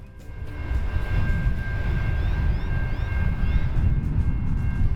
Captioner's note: train bells ringing